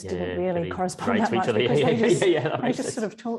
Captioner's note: laughing